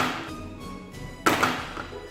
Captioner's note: clunk